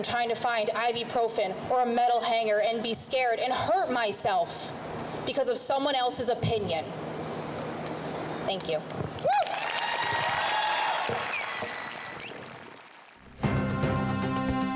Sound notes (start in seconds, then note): 9.2 crowd cheers; 13.4 dramatic music